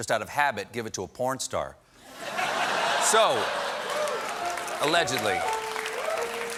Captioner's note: laughter